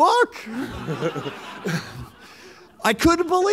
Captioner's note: laughter